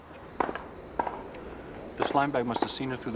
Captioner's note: popping